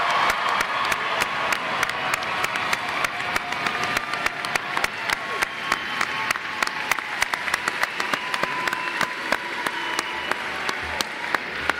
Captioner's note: applause